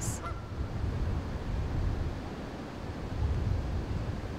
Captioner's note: water purling